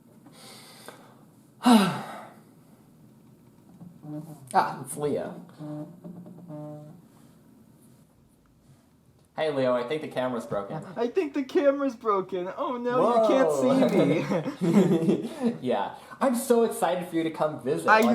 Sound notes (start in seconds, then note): 1.6 sigh